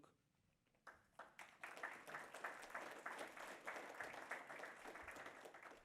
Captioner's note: audience applauds